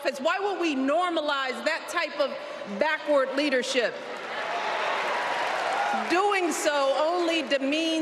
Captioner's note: applause